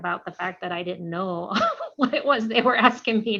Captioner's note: laughter